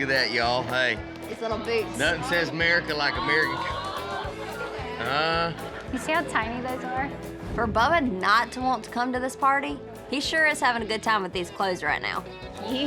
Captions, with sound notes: LOOK AT THAT, Y'ALL. HEY. NOTHIN' SAYS AMERICAN LIKE- [CROWD SAYS AW] SEE HOW TINY THOSE ARE? FOR BUBBA NOT TO WANT TO COME TO THIS PARTY, HE SURE IS HAVIN' A GOOD TIME WITH THESE CLOTHES RIGHT NOW.